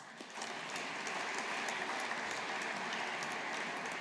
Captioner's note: audience applauding